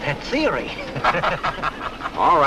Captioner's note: passangers laughing